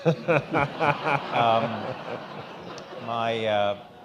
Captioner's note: all laughing